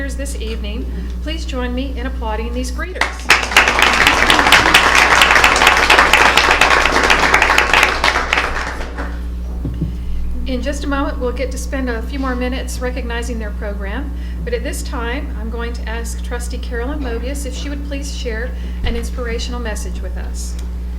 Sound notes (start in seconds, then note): 2.9 applause